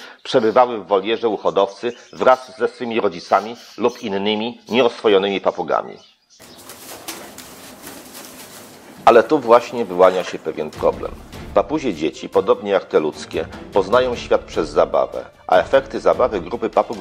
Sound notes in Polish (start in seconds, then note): 6.4 trzepot skrzydeł